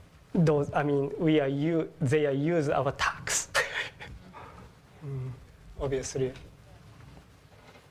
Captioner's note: laugh